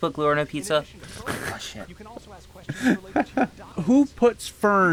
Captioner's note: laugh at AI Googling